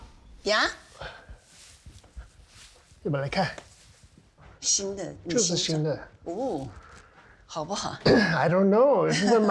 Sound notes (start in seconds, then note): 3.1 speaking in Chinese